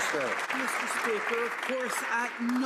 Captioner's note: some Applause